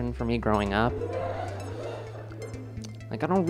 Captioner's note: laughter